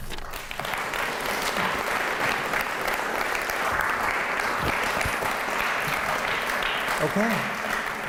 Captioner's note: applause